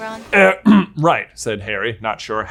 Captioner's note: clears throat